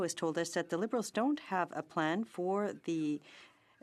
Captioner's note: speaking French